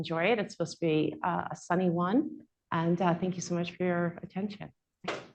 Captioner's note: applause